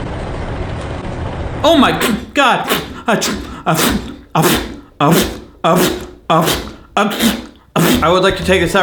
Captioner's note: sneezes a total of 8 times; sneezes